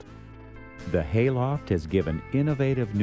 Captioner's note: voiceover